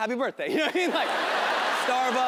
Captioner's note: audience laughing